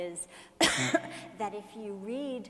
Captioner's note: sneezing